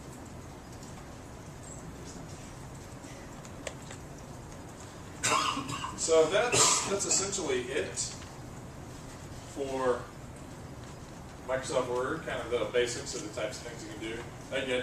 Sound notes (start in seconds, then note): 3.8 cough